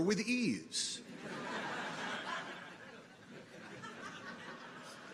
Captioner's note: people laugh